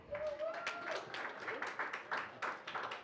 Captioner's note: applause